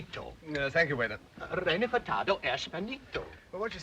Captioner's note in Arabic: رودولف يتحدث لغة أجنبية